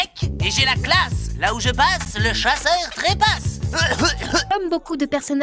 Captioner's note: cough-cough